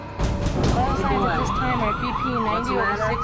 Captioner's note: boom, boom, boom; ambulance sirens